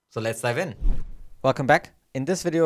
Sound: graphic whooshes

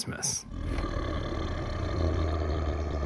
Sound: growling

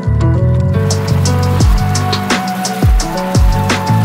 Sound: trike driving sounds

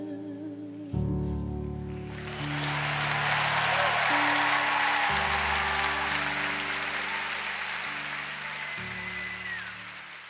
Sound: audience applauds

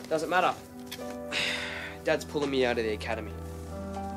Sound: sighs

